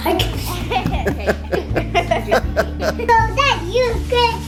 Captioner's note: laughing